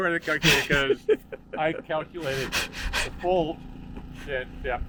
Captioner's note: host laughing